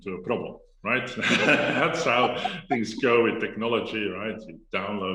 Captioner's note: laughs